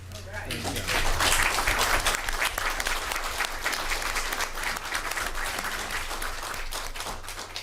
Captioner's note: applause